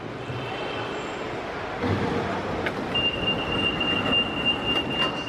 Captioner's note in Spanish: apertura de puertas del monorriel